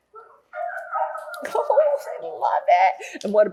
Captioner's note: barking sounds